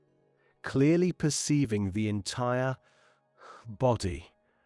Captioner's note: breath